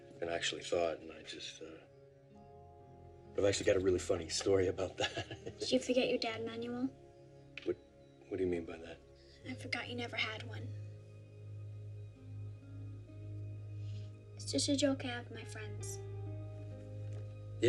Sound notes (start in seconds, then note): 4.8 laughs